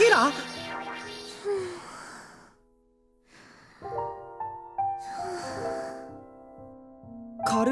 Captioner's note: light snoring